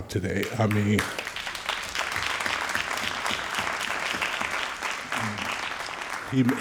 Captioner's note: all applauding